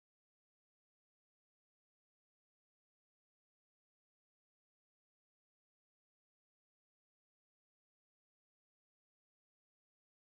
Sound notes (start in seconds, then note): none